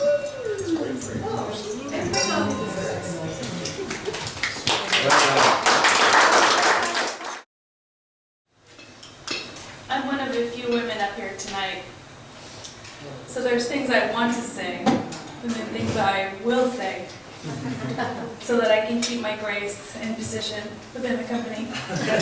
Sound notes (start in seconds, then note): 0.2 voiceover; 2.8 guests applaud